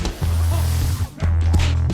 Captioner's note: sounds of a fight; the sound of lifting from the floor; sounds of a fight